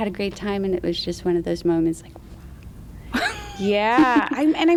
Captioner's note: laughs